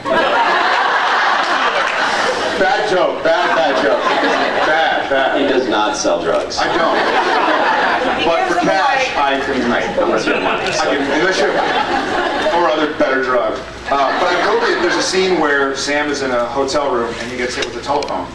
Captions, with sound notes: [laughs] Bad joke, bad bad joke. [scattered laughs] [scattered laughs] Bad, bad. He does not sell drugs. I don’t, I don’t. [laughs] But for cash I can... Right, unless you have money, so... I can -- unless you have -- yeah. [laughs] [scattered laughs] Or other, better drugs. Um, but I broke it -- there’s a scene where [scattered laughs] Sam is in a hotel room and he gets hit with a telephone.